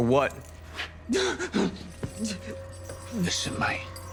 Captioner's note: Sameer gasping rapidly